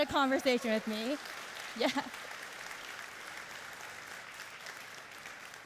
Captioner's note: cheering and applauding